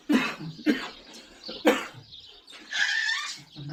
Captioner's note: clears throat